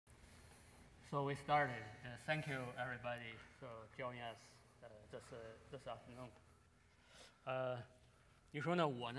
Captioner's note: speaking in Chinese